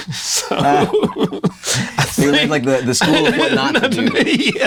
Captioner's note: both laugh